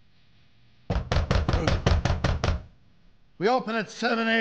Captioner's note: knocking on door